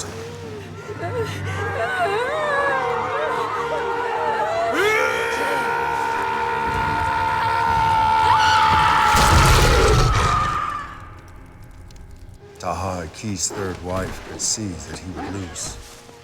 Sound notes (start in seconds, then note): 1.4 crying; 4.8 yelling